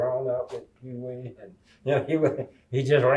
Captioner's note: chuckles